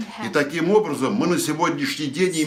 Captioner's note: foreign language